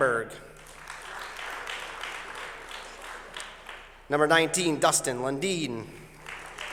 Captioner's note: applause; applause